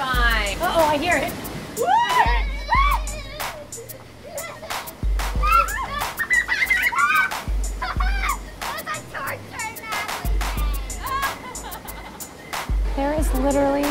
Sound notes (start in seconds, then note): 1.8 screaming; 5.4 squeels; 7.7 evil child laughter